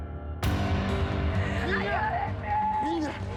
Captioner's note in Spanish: Gritos